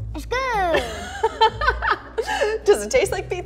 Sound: laughs

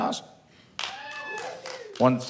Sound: one person claps

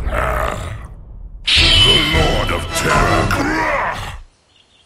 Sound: grunts

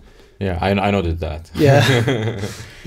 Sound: laughs

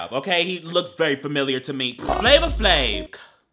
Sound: laughing

